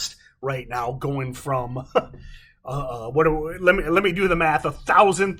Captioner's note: chuckles